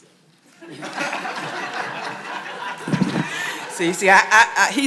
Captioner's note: audience applauds